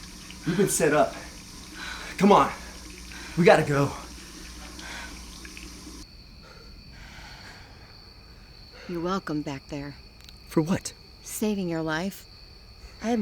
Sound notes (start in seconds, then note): 6.3 both breathing heavily; 6.7 crickets chirping